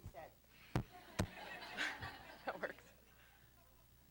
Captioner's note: laughter